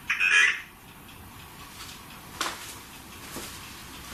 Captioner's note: Voice on Ovilus